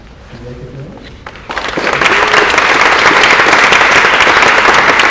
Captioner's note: applause